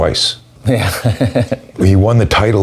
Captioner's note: laughs